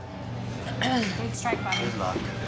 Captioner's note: clears throat